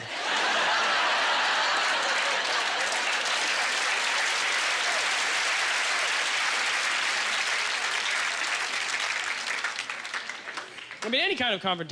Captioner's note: audience laughter; applause